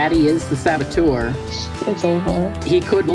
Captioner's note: nervous non-saboteur noises